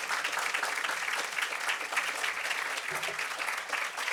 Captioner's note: applause